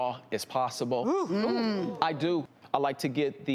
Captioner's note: audience and hosts ooh